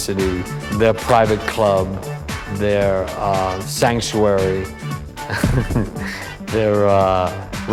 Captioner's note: laughs